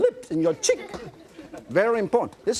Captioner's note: children laughing